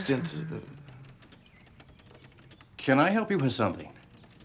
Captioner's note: Murell sighing